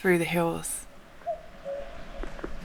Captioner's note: cuckoo